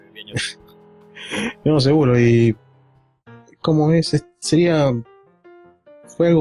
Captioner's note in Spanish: risas